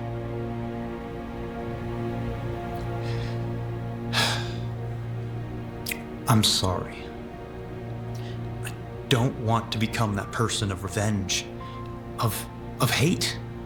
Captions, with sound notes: (somber music) (Jason sighing) I'm sorry. I don't want to become that person of revenge, of hate.